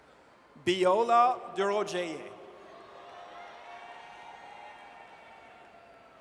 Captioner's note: audience cheers